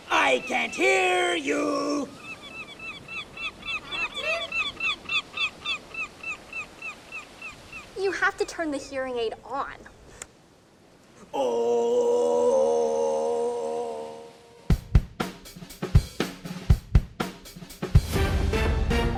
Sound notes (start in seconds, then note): 2.0 seagulls squawking; 4.1 kids worriedly